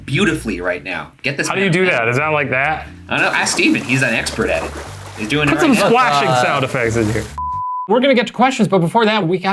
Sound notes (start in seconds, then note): 5.7 splashing sound effects